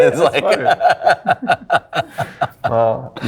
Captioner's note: laughing